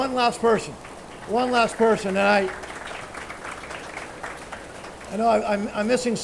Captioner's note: attendees applauding